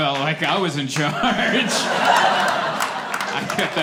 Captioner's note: laughter